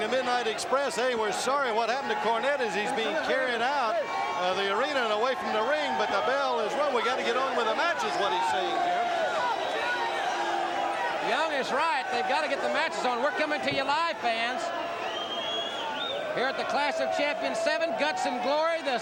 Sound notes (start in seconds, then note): 9.9 crowd shouting